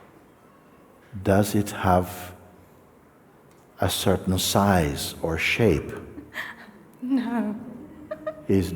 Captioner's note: laughs